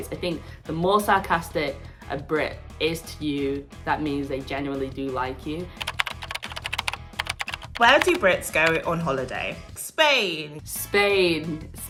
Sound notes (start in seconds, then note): 5.8 keyboard clacking